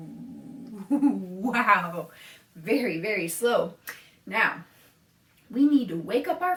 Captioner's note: laughs